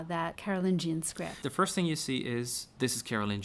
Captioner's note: voiceover